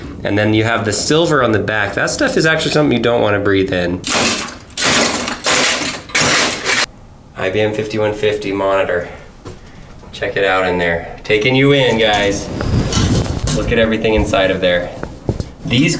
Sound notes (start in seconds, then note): 4.0 hammer smashes computer